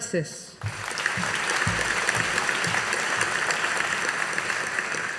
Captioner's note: audience applauding